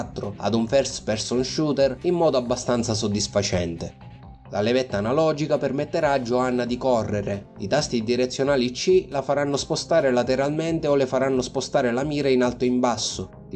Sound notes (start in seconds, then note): none